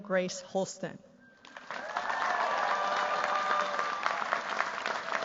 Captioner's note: cheers, applause